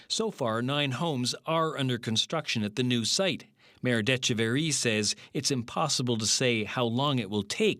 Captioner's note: speaking French